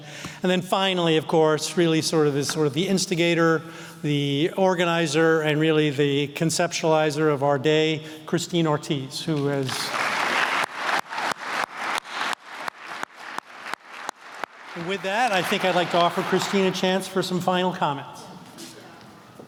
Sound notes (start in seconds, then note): 9.6 applause